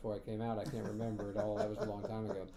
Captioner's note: laughing